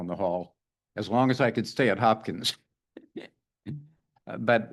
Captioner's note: laughs